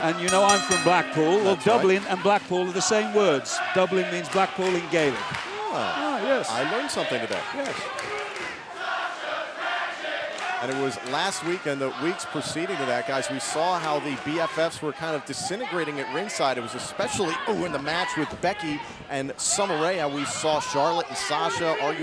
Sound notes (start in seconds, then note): 8.5 crowd chanting